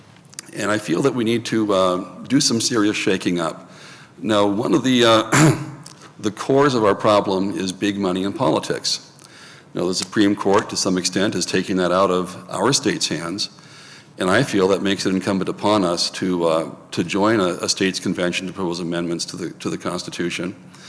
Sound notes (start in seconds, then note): 5.3 clears throat